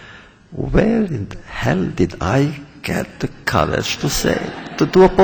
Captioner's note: laughter